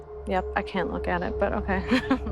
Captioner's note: chuckles